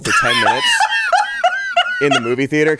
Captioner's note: laughs